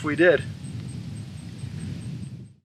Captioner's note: insects chirp